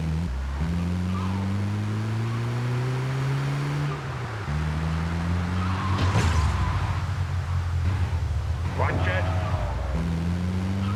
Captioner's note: engine roaring